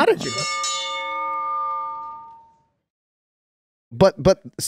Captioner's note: bell rings